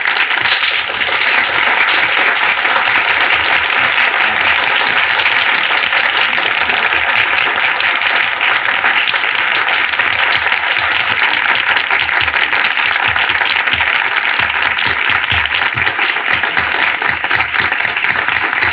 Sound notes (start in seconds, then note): 2.4 chattering